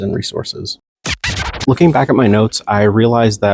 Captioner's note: record scratch